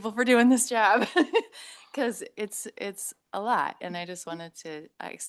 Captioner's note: laughs